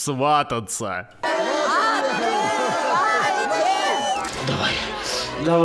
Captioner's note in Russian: шум и гам